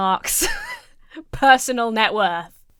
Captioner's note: wheezes